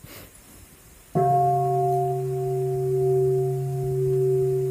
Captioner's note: bell